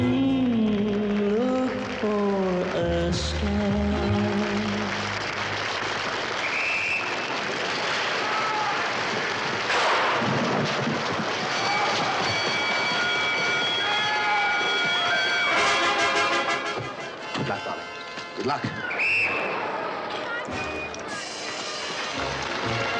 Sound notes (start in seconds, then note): 2.3 audience applauds; 6.4 whistle shrills; 10.2 gunshot bangs; 11.5 bell ringing; 18.7 whistle shrills; 22.7 audience applauds